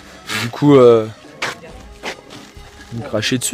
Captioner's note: lama spitting